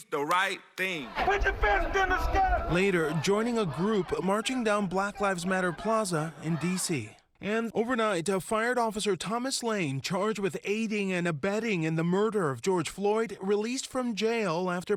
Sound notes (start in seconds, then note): 5.5 crowd chanting